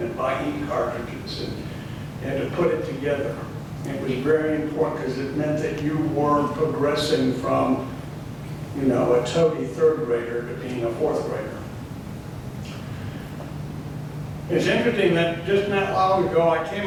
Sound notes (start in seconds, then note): none